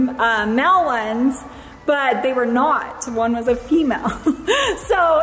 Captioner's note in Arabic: ضحكة مكتومة